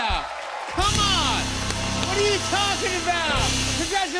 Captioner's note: cheers and applause